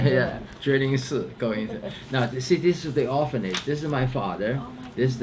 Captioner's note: speaks Chinese